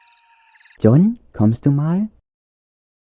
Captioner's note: calling